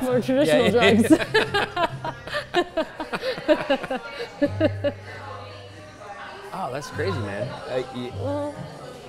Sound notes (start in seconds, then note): 0.6 laughs